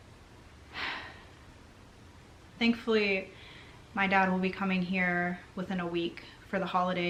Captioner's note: sighs